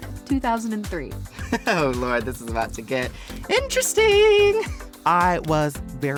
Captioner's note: laughing